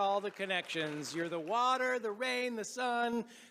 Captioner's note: applause